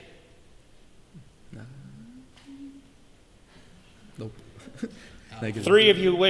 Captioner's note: confused Murmurs